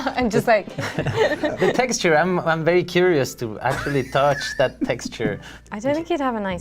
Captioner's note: laughter